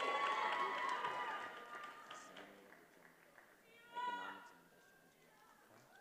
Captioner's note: attendees applauding and cheering